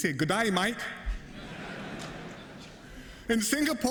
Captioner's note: laughter